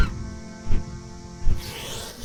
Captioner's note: large wings flapping